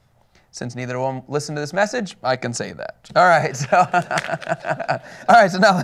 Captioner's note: laughter